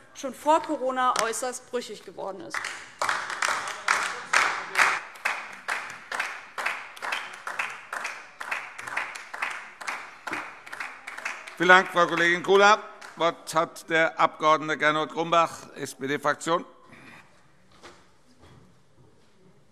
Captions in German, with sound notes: schon vor Corona äußerst brüchig geworden ist. [Beifall DIE LINKE] Vielen Dank, Frau Kollegin Kula. - Das Wort hat der Abg. Gernot Grumbach, SPD-Fraktion.